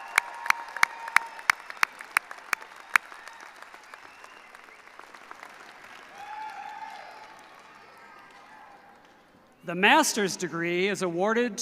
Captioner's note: cheers and applause